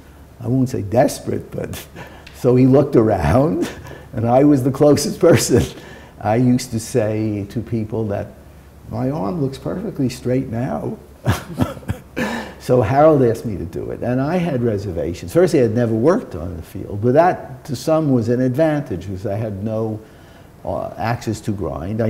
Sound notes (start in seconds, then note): 11.2 chuckle